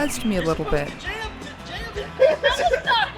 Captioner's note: yelling off-screen